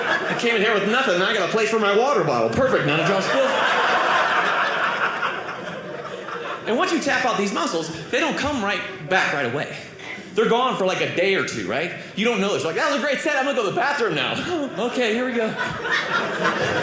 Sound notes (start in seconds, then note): 2.2 audience laughing